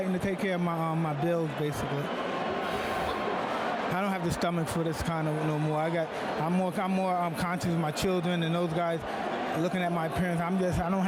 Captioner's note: applause